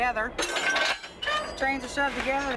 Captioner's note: knuckle clanks